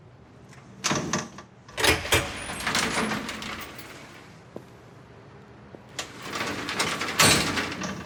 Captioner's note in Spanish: Sonidos al abrir y cerrar la puerta